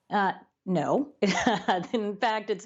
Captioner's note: laughter